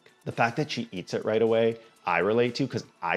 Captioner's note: none